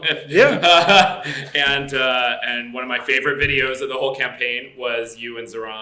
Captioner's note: laughs